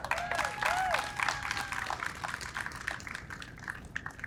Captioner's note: audience applauds